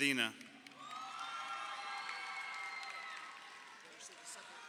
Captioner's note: crowd cheering